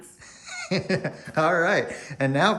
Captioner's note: laughs